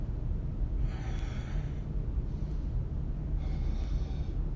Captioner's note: inhales, exhales